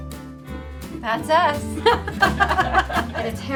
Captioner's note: laughter